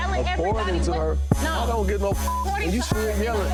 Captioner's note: beep